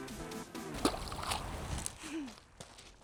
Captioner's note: plop